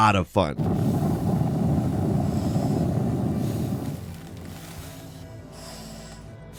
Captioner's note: earth drilling; air tank breathing